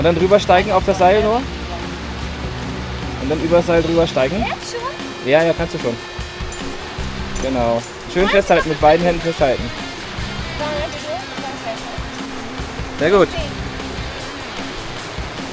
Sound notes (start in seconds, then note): 0.1 speaking German; 13.1 speaking German